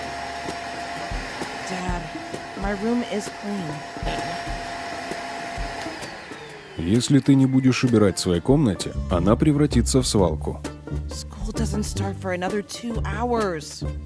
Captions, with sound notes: Dad… My room is clean. *SPEAKSINRUSSIAN* School doesn't start for another two hours